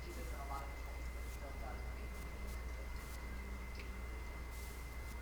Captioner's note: staff member speaking quietly